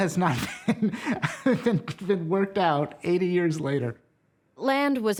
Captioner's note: laughing